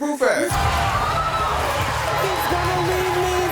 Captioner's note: audience cheering